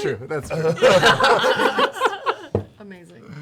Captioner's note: laughter